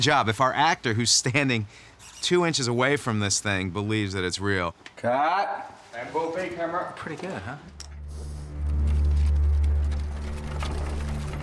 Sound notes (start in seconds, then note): 7.8 wagon approaching